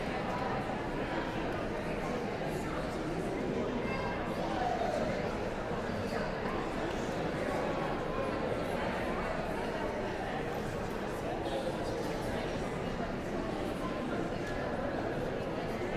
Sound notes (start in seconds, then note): 4.0 audience chattering continues